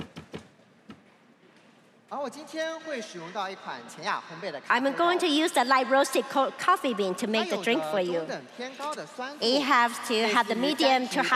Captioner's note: applause